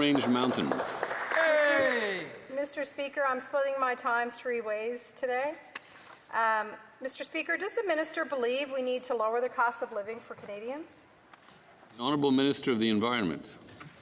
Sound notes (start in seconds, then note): 2.1 applause